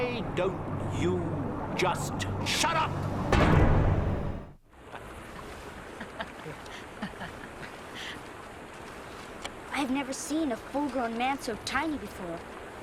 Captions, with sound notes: - Why don't you just shut up?! (water running) (laughing) - I've never seen a full grown man so tiny before.